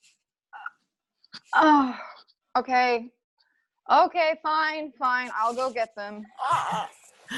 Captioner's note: exhales; various exclamations of excitement